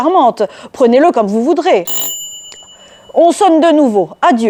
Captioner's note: sound of doorbell